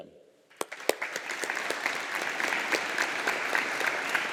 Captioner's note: audience applauding